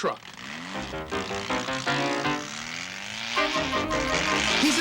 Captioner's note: motorcycle revving